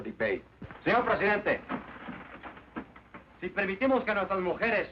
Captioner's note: man speaking Spanish